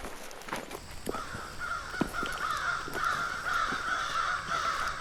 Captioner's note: crows cawing